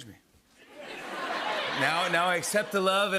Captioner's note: laughter